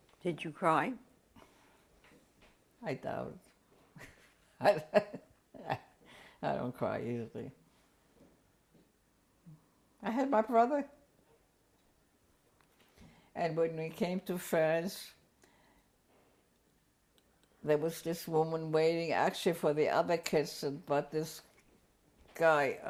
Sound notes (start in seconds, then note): 4.5 laughs; 7.4 pauses for 3 seconds